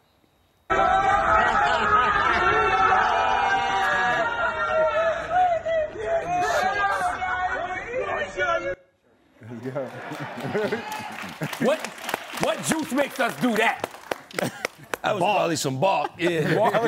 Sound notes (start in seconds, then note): 1.9 shouting; 9.4 audience clapping